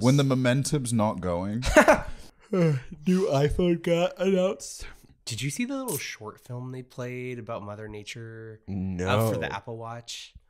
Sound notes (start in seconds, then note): 2.5 yawns